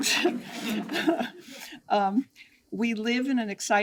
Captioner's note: attendees chuckle